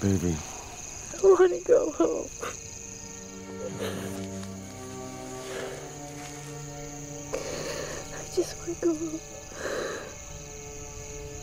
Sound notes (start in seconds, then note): 3.6 Jessica Crying